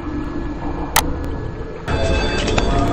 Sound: mouse clicking; eerie music

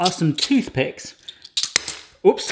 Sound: wooden jostling

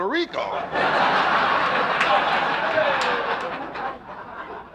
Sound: audience laughing

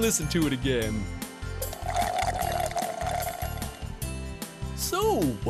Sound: slurps

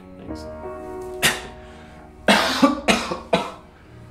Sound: coughing

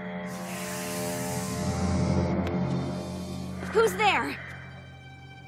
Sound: heavy breathing

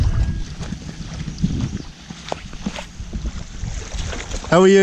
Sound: water sloshing

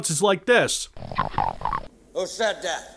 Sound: pissant Imp noise

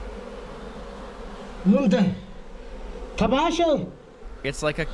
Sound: man speaking foreign language

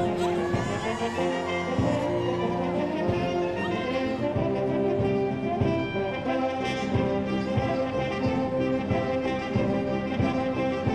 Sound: applause

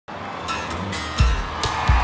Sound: cheers

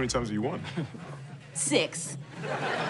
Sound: Eric chuckles

